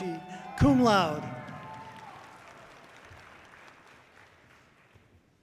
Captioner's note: audience cheering loudly